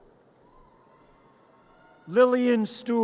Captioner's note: audience cheers